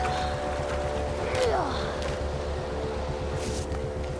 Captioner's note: grunting